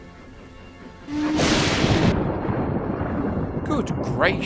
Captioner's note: adam whistles as lighning crashes and booms